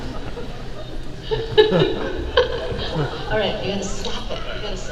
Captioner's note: Ming-Na laughing